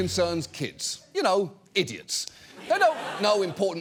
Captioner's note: audience laughs